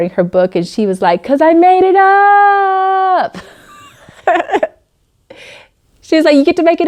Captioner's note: laughing